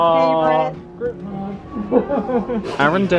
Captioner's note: laughs